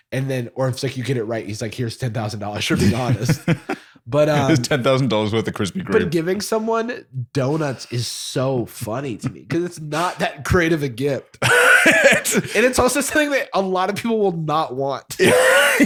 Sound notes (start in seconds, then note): 11.4 laughter